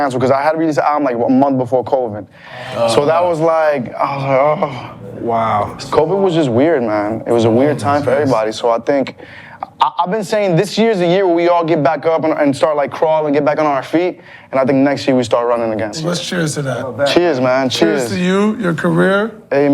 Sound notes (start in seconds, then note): 2.5 grumbles